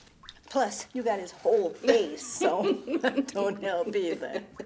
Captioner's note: Beverly laughs